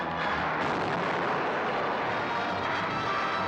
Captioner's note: wall explodes; dramatic music; sounds of battle